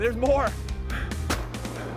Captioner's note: gun shot